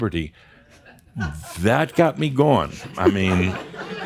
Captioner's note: more chuckles